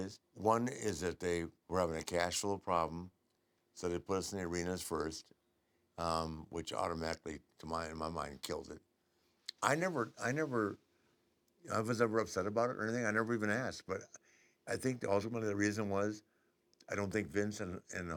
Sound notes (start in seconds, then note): none